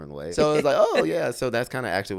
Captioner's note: laughs